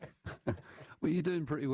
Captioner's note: laughter